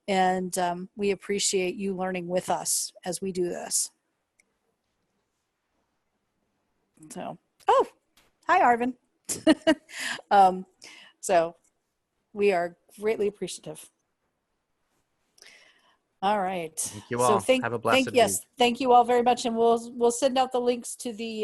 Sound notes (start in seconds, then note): 9.3 laughter